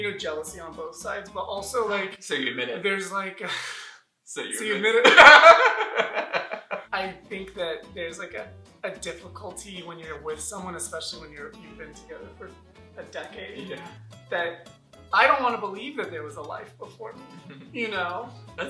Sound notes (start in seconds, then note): 5.0 laughter